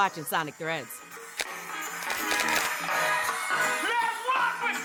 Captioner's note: upbeat music; shutter snapping